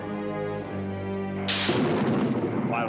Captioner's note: thunder rumbles